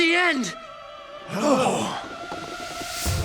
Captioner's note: grunting